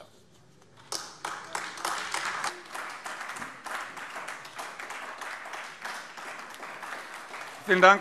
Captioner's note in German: Beifall AfD